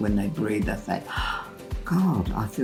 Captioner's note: exhaling